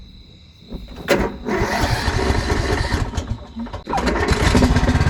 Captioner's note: sound of lawnmower trying to turn on